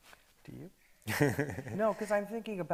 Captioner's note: chuckles